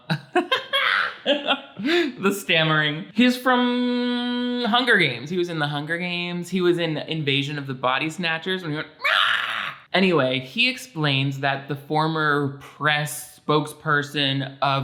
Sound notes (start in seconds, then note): 0.0 laughs; 9.0 pretends to scream